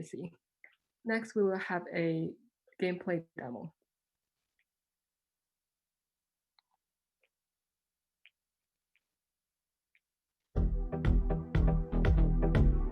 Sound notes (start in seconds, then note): 4.6 silence; 10.5 video Playing with Music